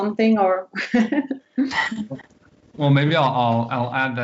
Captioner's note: laughter